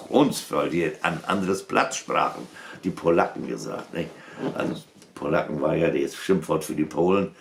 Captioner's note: low German